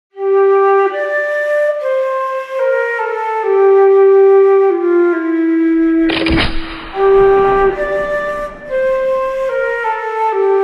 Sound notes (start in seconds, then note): 0.1 sad flute music; 5.7 musket shot; 5.9 sad flute music